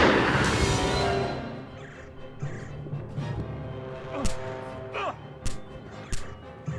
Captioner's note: gunshot blasts; adventurous music; men grunting